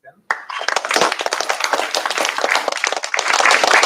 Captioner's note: applause